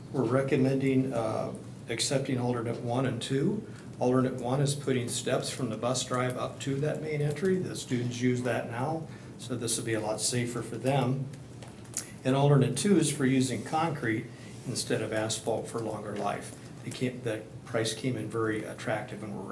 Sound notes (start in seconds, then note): none